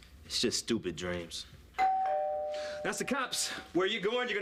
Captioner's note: doorbell rings